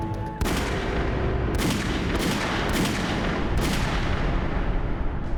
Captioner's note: gunshots